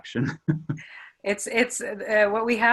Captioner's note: laughs